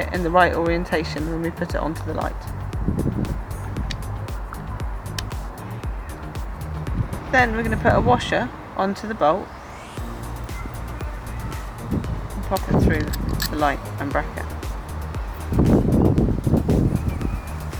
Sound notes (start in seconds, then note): 14.8 wind noise